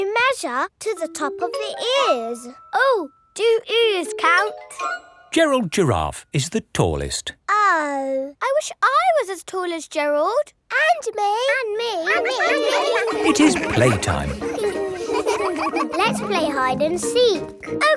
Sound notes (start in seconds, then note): 12.1 all laughing; 14.6 all giggling